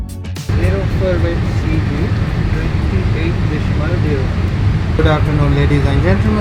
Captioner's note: plane engine drowns out pilot